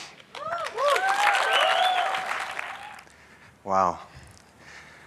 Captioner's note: audience cheers